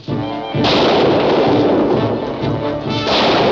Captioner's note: gun firing